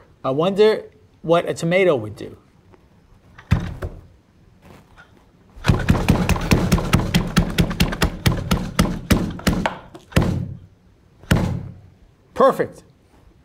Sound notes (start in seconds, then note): 5.7 machine rattles